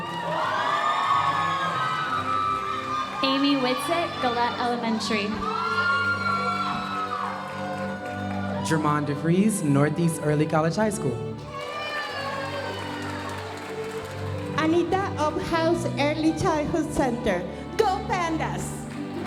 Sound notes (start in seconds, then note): 0.1 audience cheering and applauding; 5.5 audience cheering and applauding; 11.5 audience cheering; 18.0 audience applauding